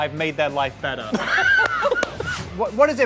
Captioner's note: laughs